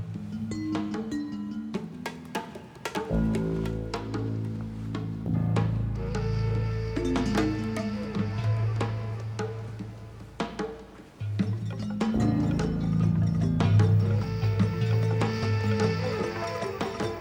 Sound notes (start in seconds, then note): none